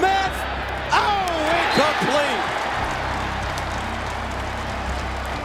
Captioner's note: crowd cheering